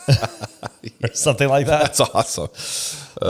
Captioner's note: laughs